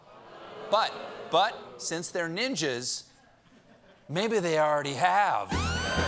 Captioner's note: audience reacts